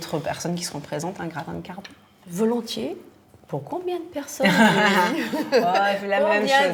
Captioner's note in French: rires